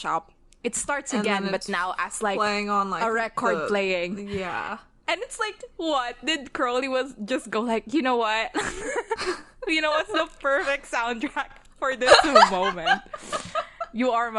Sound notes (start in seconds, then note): 8.9 laughing